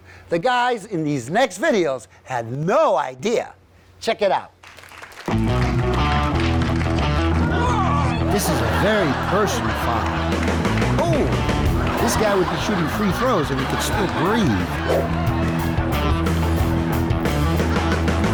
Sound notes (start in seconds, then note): 5.6 upbeat rock music; 12.1 audience laughs